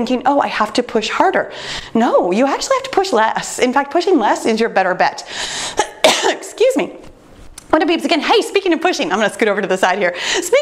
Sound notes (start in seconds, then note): 5.7 sneezes